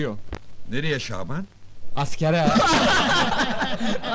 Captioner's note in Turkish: gülerler